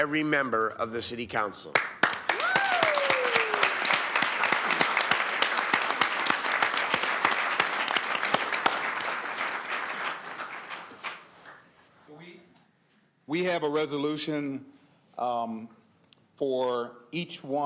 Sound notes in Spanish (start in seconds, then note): 9.0 aplausos